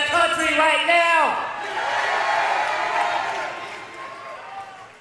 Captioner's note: audience cheers